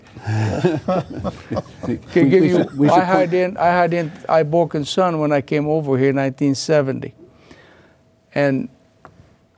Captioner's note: laughing